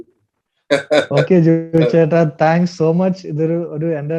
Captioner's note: Joju laughs in joy